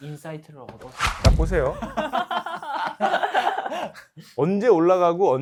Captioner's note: laughter